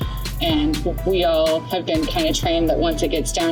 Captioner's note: none